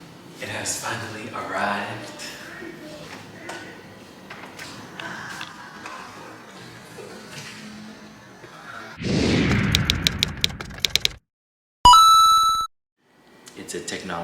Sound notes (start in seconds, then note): 5.0 soflty gasps; 8.9 sound Effects